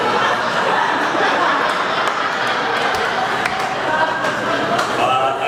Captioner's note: laughter